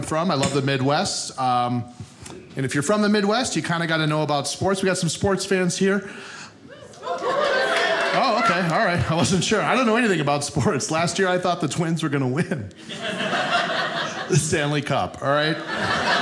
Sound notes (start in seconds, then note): 6.7 audience cheering; 15.4 audience laughing